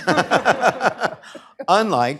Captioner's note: laughter